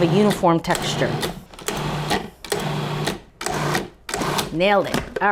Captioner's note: food processor whirring